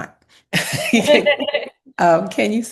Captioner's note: both laugh